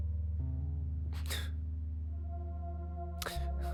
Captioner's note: weeping